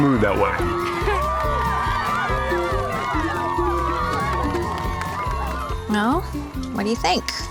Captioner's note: cheering